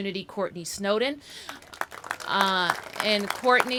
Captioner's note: applause